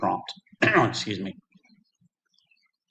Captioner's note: coughing; silence